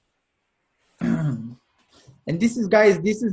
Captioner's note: clears throat